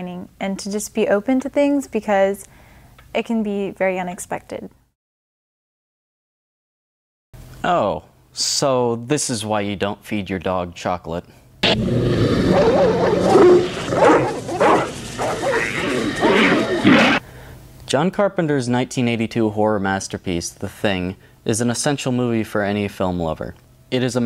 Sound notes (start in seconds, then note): 11.6 growling; 14.1 barks